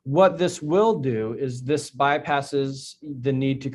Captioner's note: none